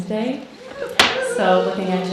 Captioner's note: audience cheering